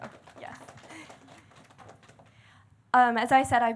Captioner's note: audience clapping